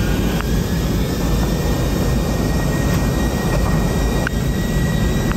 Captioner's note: plane engine whirring